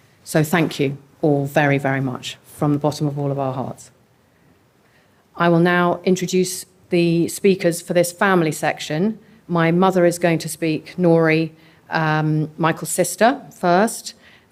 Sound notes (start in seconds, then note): none